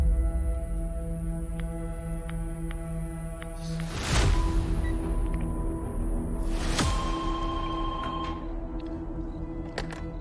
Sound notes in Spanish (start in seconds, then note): 7.0 Suena el celular